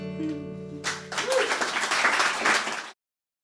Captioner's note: applause